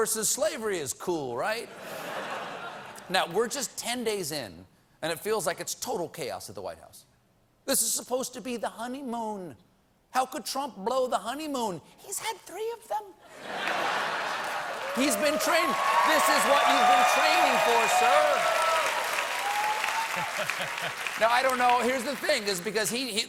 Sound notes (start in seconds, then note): 1.7 laughter; 13.3 laughter; 14.0 cheers and applause